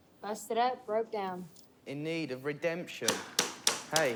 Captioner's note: none